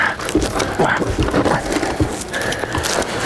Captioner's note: man grunts